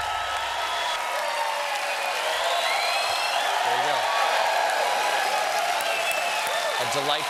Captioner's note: cheers and applause